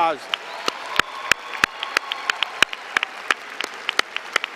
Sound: applause

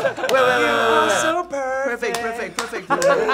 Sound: clapping; buzzer sounding

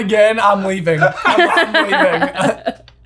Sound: laughing

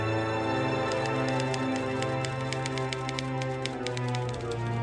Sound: typewriter clicking

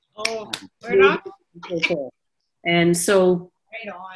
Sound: clapping

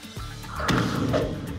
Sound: whoosh; thump

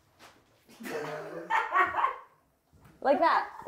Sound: laughing

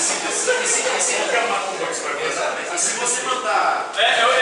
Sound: laughs

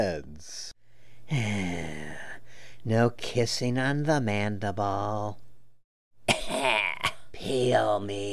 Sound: coughs

